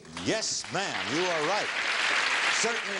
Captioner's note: audience clapping